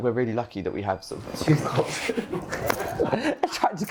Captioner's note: laughter